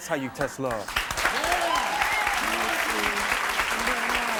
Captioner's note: audience applauds